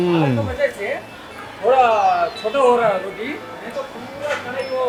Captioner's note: speaks foreign language